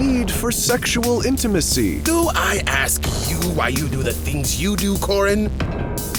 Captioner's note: bang